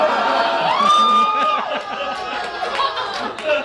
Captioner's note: laughing